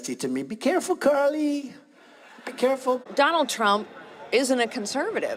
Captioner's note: laughing